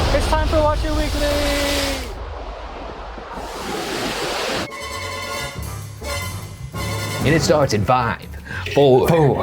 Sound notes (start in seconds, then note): 2.3 wave sounds; 4.3 suspenseful music